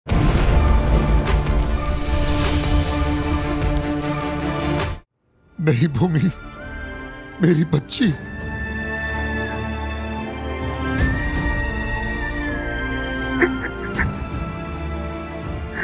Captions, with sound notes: No, Bhumi. My dear. [crying]